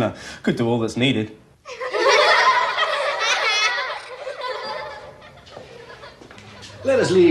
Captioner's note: giggling